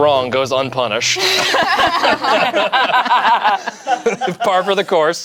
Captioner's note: group laughs